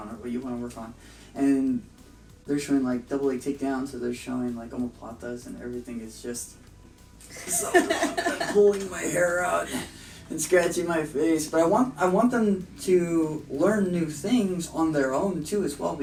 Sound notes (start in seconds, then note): 7.3 laughter